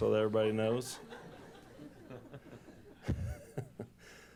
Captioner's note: laughter